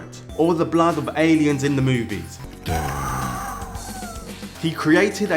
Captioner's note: alien scream sound from Duke Nukem 3D